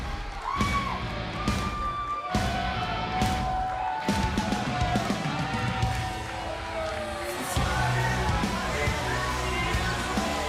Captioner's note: crowd cheering